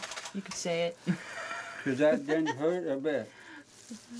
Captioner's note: crowd laugh